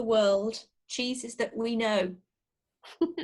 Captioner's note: laughter